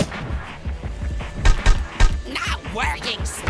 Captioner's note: biting